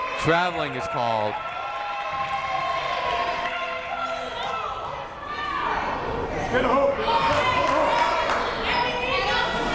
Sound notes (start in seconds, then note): 2.3 crowd chattering